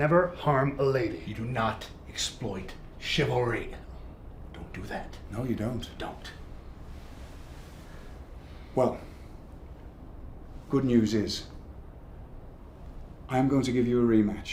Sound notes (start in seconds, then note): none